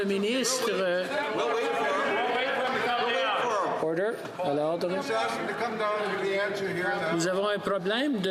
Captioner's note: speaking French